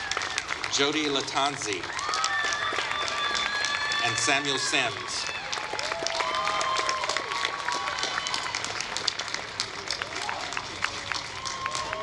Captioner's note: applause